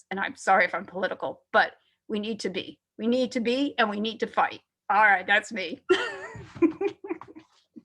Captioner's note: chuckles